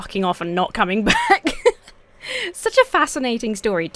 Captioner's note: laughs